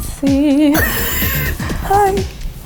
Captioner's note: laughs